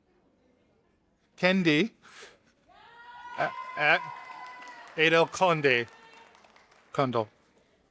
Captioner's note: audience applauding